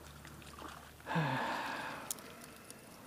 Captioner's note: sigh